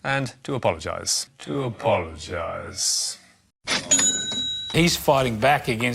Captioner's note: cash register rings